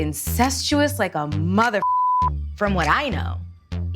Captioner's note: beep